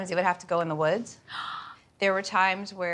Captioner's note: gasps